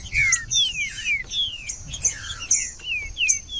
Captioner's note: trinca ferro cantando